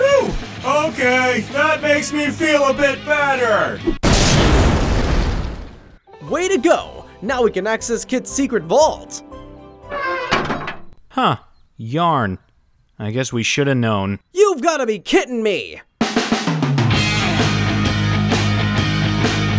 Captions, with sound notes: - Phew, okay, That makes me feel a bit better! (bomb crashing) - Way to go! Now we can access Kit's secret vault. (door creaking) - Huh, yarn, I guess we should have known. - You've gotta be kitten me. (upbeat music)